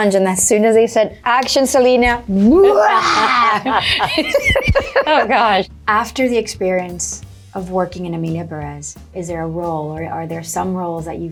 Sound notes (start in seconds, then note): 2.4 Zoe roars; 2.5 laughs